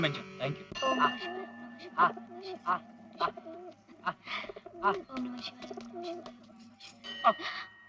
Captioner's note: bell rings